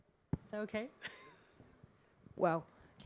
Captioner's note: chuckles